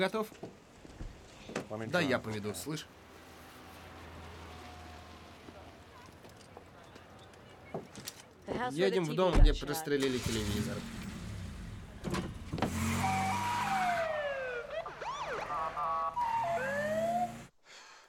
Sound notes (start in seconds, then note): 10.0 engine turns over; 12.7 tires screeching, siren wailing